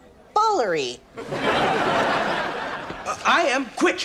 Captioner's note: audience laughs